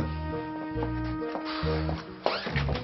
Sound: angry puff

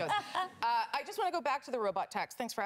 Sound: laughter

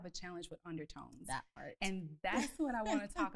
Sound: laughs

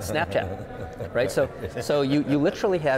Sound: laughing

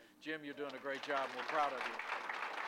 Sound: applause

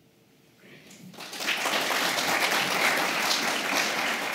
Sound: applause

